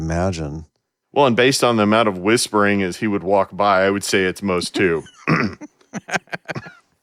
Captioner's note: laughing